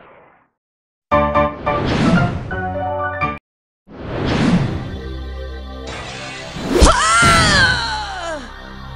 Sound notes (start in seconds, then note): 1.4 woosh; 5.9 broken glass